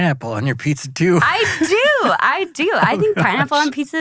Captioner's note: laughs